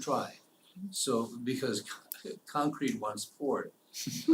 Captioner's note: laugh